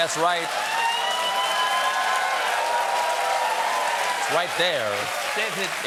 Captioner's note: cheers and applause